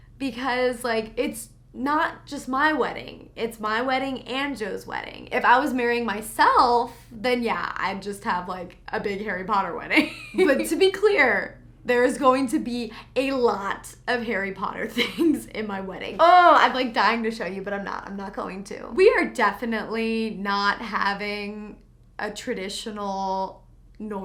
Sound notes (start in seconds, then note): 10.0 laughs